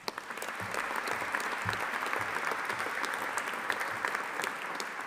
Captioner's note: audience applauding